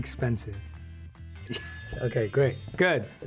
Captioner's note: chime dings